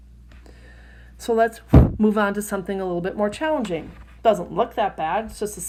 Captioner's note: mic sound